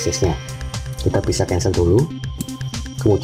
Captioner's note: click